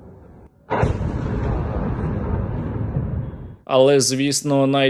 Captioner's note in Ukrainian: вибух